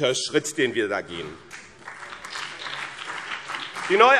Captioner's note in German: Beifall BÜNDNIS 90/DIE GRÜNEN und vereinzelt CDU